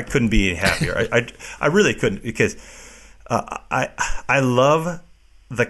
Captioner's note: laughs